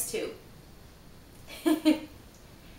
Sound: laughs

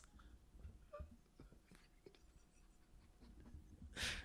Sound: quiet laughter

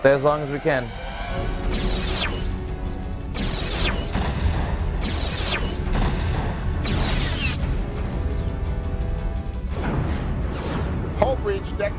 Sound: explosion

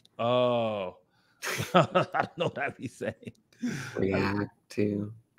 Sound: laughs

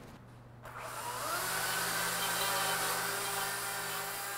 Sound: saw whirring

